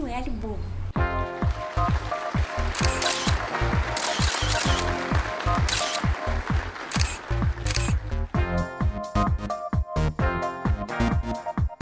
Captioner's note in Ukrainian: оплески